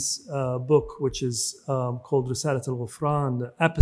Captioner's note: speaks in foreign language